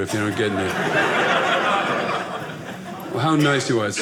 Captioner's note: audience laughing